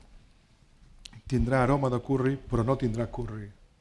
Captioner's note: speaking spanish